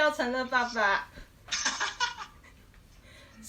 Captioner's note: laugh